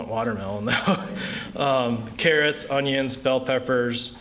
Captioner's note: laughter